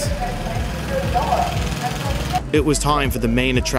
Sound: motor rumbling

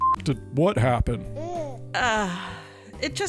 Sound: Zara giggles

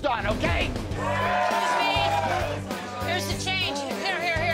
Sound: patrons cheering

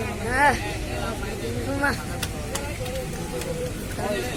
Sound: cheering

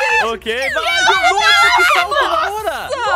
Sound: screams

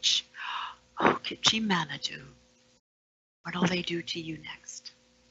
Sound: foreign language

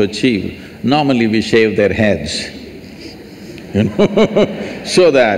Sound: laughs

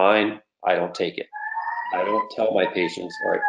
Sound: sirens blaring

